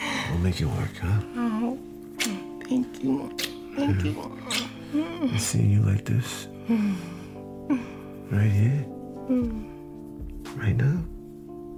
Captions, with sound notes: We'll make it work, huh? Oh. [kissing sound] Thank you. Thank you. Seeing you like this... [laughing] Right here. Right now.